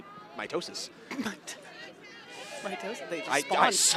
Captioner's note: chuckles